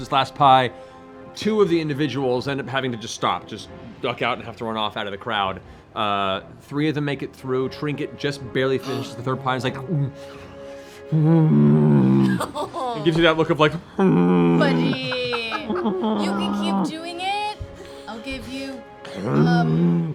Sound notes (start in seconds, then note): 10.4 gulps, distressed growls; 13.8 distressed growling